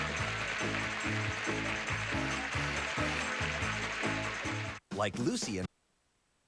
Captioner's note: audience applauding